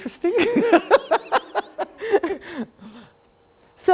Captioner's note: laughing